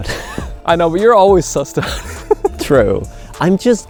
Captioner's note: laughs; laughs